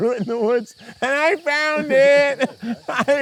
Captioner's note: laughs